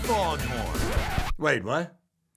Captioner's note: record scratches